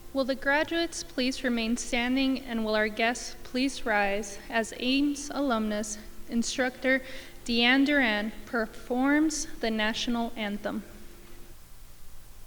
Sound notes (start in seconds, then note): none